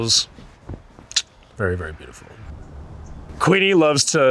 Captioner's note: clicks tongue